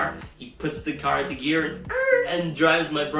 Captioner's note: screeching